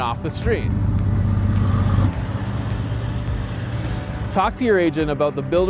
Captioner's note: truck engine rumbles